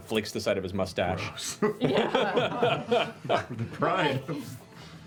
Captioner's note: laughter